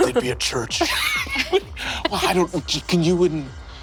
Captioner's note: players laughing